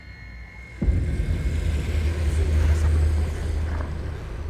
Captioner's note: ethereal growling